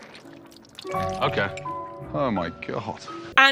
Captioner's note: utensils clink; food sliming